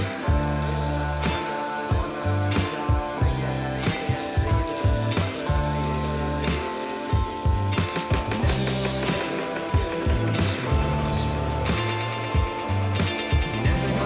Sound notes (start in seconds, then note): 0.0 upbeat music; 0.7 people chattering